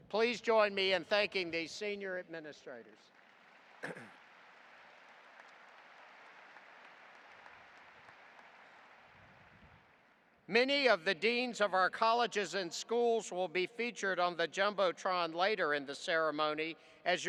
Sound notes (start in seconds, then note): 3.0 audience applauding